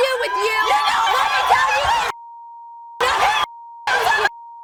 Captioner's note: women scream